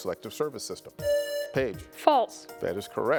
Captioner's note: buzzer buzzing